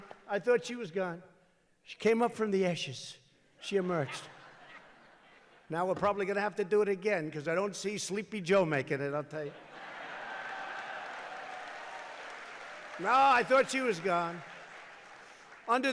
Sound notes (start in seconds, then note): 3.7 laughter; 9.5 laughter and applause